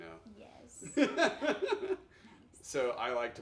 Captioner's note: laughing